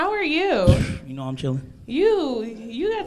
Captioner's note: scoffs